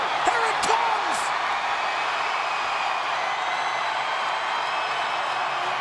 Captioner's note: audience cheering